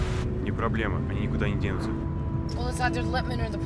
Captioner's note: speaking in a foreign language